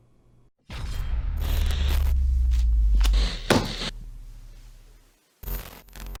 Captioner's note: scratching sound